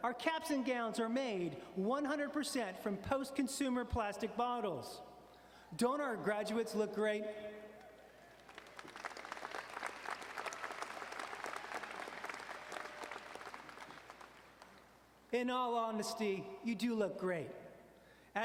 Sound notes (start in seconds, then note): 8.1 audience cheering and applauding